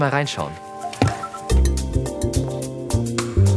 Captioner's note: spherical sounds